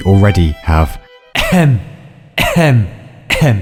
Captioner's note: ahem